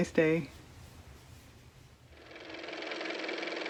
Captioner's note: car motor